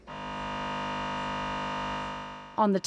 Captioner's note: machine buzzing